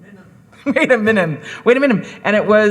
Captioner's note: laughs